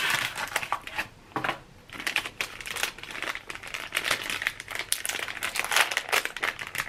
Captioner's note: box dropping; plastic crinkling